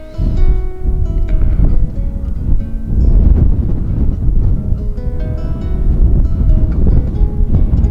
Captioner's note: wind, Music